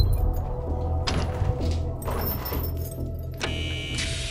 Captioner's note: chains clanking; door creaking; door thuds; alarm buzzing